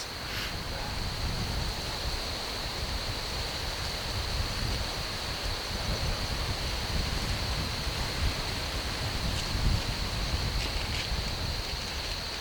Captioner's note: wind